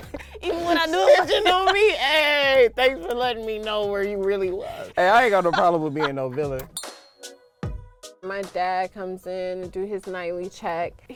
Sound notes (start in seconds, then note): 0.0 laughing; 5.2 laughing; 6.6 glass clinking